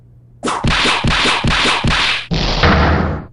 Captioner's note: whip cracks!